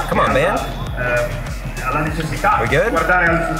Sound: announcer speaking in Italian

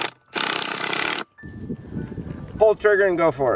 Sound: drill grinding

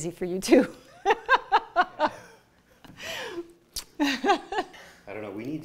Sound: laughs

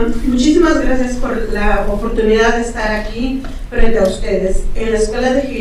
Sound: speaking in Spanish

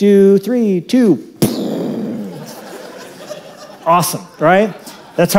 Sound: exploding sound

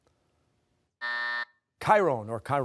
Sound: buzzer

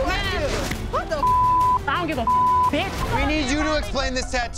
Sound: beep

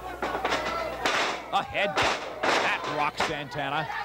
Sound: crowd yelling

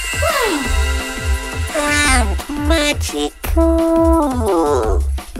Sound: magical twinkling sound

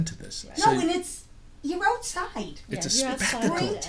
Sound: voiceover

